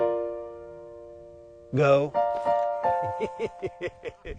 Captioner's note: laughing